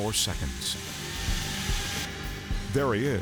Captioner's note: chainsaw buzzing